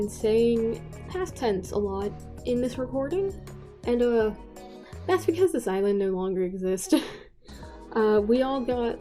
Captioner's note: laugh